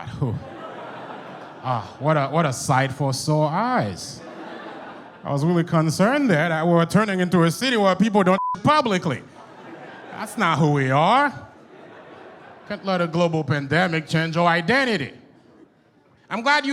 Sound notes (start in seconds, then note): 4.2 audience chuckles; 8.3 beep; 11.5 audience chuckles